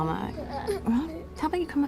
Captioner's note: children straining, grunting